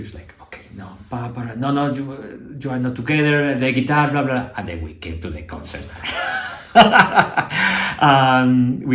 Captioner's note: laughter